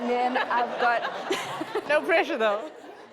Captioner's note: audience laughs